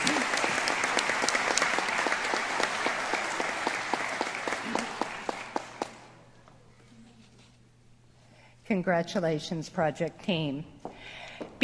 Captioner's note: applause